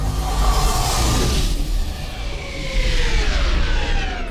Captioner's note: engine swooshing